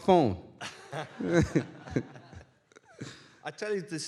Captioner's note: chuckling